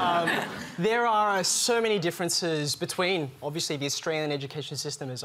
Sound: laughter

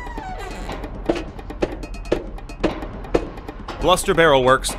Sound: door creaks open; factory machines running; footsteps on metal

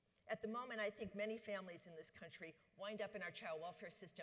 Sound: none

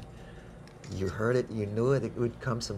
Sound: camera clicking

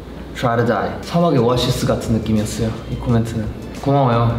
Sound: speaking in Korean

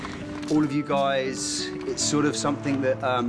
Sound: none

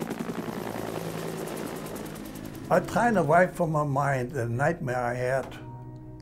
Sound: helicopter sounds

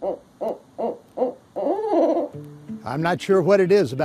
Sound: bird hooting

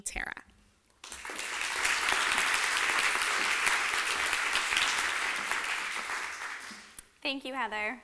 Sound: applause

